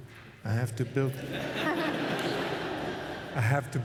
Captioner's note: laughter